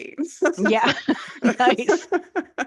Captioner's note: laughs